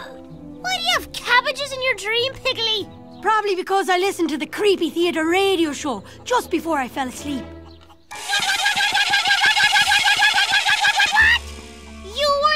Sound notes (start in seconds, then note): 0.0 laughs; 7.0 excited springy noises